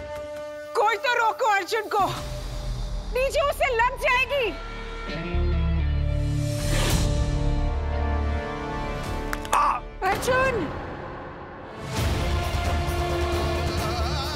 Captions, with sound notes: Someone, please stop Arjun. DJ, he will be hurt. - [screaming] - Arjun. [emotional music playing]